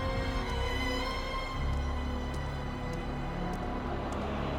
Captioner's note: footsteps tapping